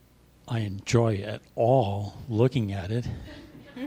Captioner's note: laughter